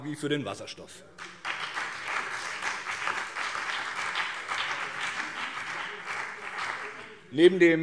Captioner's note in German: Beifall BÜNDNIS 90/DIE GRÜNEN und CDU